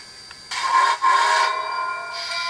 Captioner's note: whistle